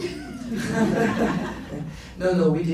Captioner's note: laughs